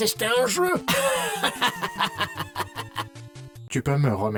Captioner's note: evil laugh